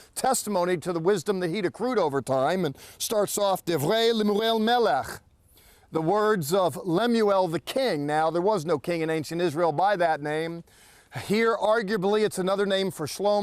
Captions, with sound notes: testimony to the wisdom that he'd accrued over time, and starts off, [speaking in Hebrew]The w" Now, there was no king in ancient Israel by that name. Here, arguably, it's another name for Shlomo,